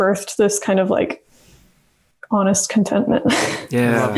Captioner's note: laughs